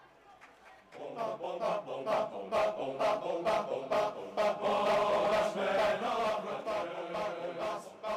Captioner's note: cheers